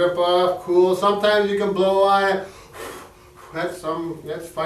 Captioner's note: blows